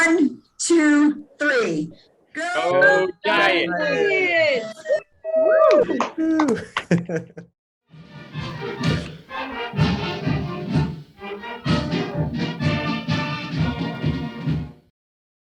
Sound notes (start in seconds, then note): 6.1 clapping; 8.0 dramatic music